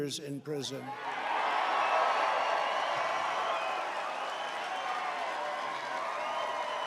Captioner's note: applause